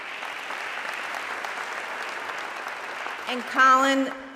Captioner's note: audience clapping